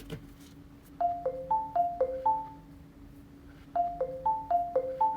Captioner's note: phone ringing